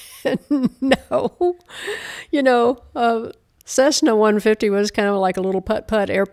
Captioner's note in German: Gelächter